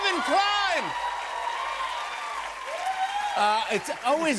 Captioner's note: cheers and applause